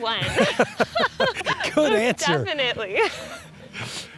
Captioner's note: laughter